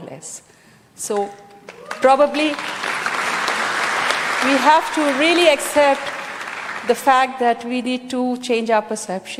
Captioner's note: cheering/Applause